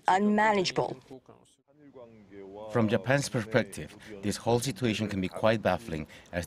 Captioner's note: Korean